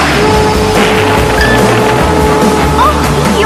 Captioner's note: crash!